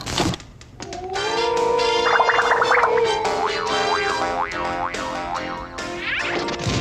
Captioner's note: TV video playing